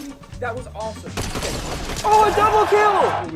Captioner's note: gun blasting